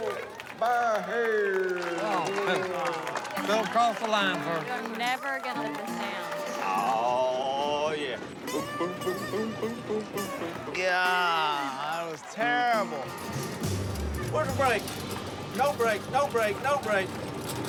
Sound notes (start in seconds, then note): 1.7 clapping